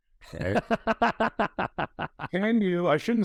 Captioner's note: chuckles